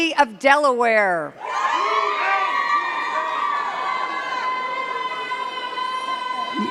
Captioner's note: cheers and claps